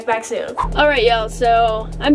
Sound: air whooshing

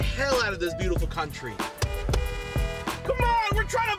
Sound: honking horn

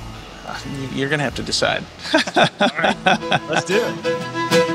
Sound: laughs; fiddle plays

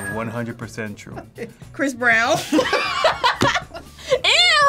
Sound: both laugh

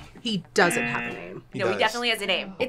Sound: buzzer squeaks

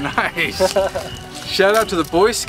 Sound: man laughs

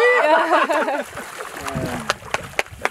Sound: laughter; clapping

